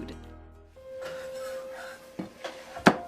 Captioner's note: silverware and dishes clanging; chopping